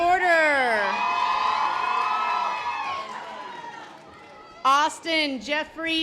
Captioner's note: audience applause